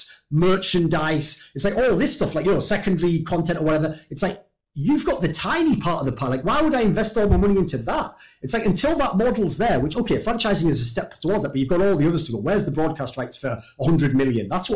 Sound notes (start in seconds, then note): none